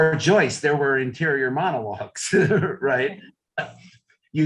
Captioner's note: chuckles